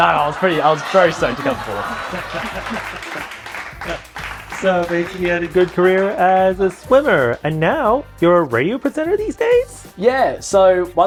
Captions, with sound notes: No, I was very stoked to come fourth. [laughter] [applause] Basically, you had a good career as a swimmer. Now you're a radio presenter these days? Yes.